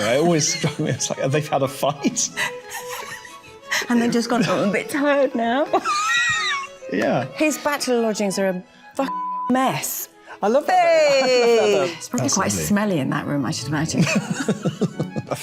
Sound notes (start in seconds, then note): 6.4 laughing; 14.0 both laughing